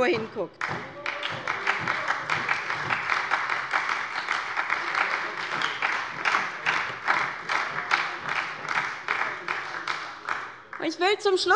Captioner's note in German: Beifall bei der SPD - Widerspruch bei der CDU